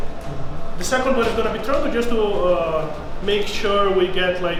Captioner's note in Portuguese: none